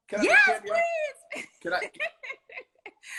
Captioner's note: laughs